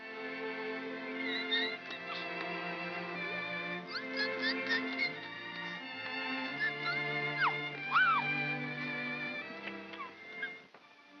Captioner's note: baby coos; soft music